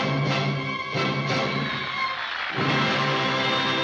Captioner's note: audience applauding